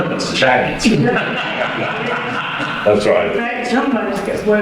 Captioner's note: addience laughter